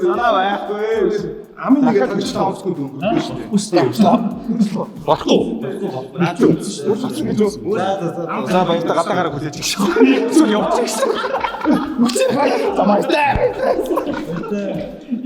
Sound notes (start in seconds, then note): 11.2 everyone laughs; 12.5 laughs